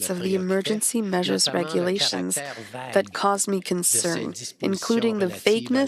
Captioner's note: speaking French